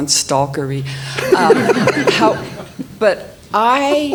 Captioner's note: all laughing